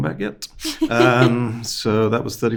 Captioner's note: host laughing